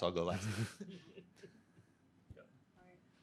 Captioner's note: group chuckling